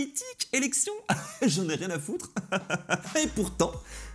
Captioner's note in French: rires